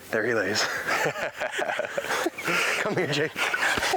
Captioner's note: hunters laughing